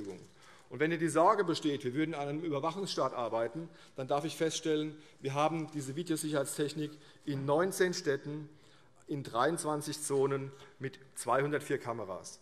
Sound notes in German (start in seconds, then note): none